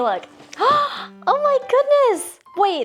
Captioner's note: gasps